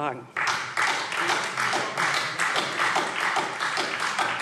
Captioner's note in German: Beifall SPD und Freie Demokraten